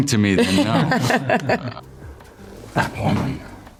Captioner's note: laughing